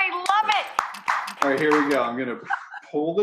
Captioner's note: Rachael clapping